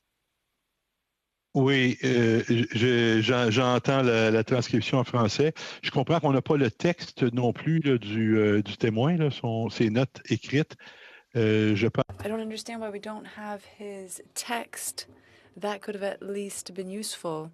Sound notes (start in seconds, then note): 6.5 speaking French